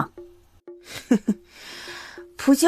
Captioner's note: chuckles mockingly